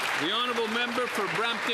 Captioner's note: some Applause